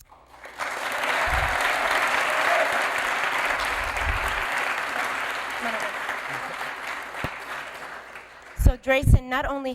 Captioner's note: applause